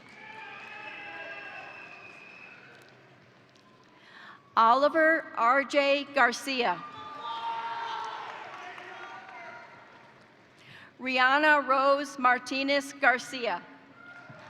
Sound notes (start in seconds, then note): 0.0 crowd cheering; 0.0 crowd applauding; 6.8 crowd cheering; 7.0 crowd applauding; 14.2 crowd applauding; 14.2 crowd cheering